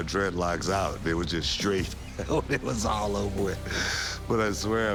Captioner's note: laugh